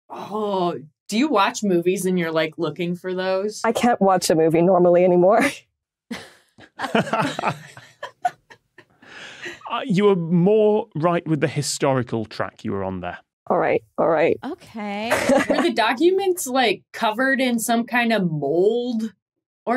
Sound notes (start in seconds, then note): 6.1 group laughing